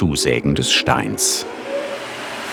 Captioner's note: whirring